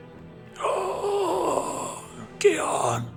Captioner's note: grunts